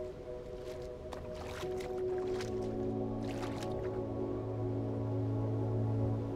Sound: calm upbeat music; water splashing

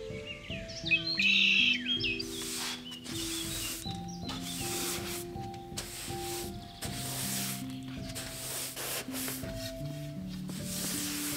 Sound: sweeping

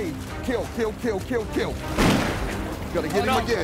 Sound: gunshot

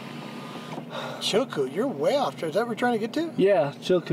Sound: sighs

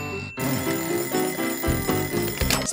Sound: clock alarm

